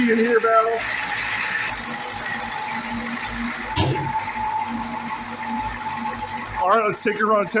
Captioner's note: engine idling